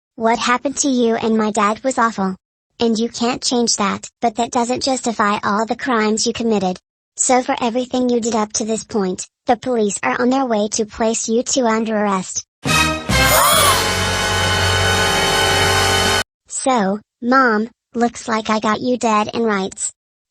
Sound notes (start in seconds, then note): 12.7 dramatic music sting; 13.2 gasps